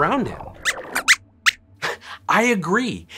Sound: squeaks squeaks

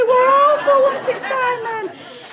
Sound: audience laughter

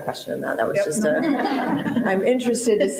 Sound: panelists laughing

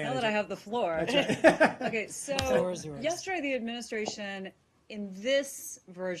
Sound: laughing

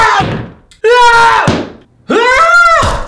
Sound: more screaming

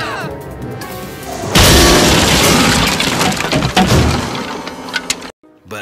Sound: sound of piano falling on some chap's head

